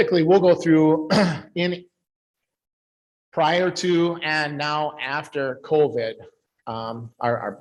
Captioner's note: clears throat